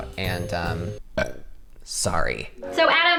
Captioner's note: burps